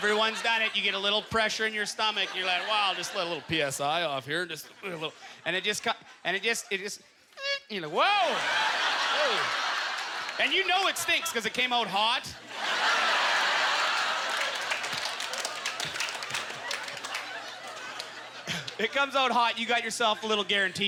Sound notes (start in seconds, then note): 7.7 audience laughter; 12.0 audience laughter; 12.8 scattered applause